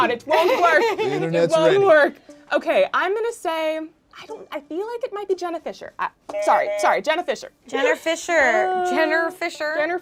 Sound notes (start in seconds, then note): 6.4 buzzer buzzes